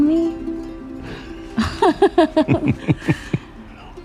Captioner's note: they both laugh